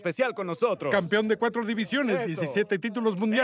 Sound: none

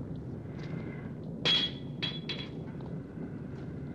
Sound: banging

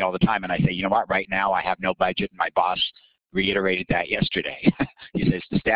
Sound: laughing

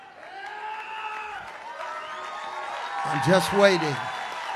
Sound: congregation cheers

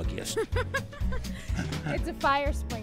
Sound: laughs

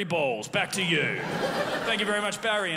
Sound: crowd laughs

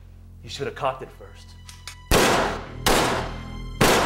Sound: gun fires

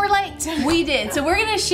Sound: laughs

